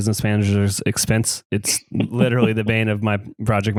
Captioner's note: laughs